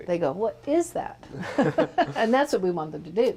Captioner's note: laughs